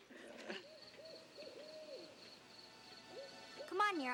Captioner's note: crickets chirping; owl hooting